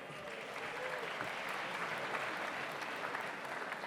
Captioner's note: audience applauds